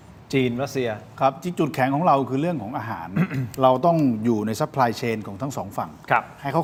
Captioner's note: clears throat